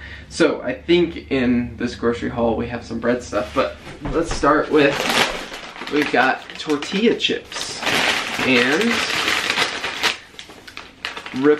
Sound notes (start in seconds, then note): 8.9 plastic crinkling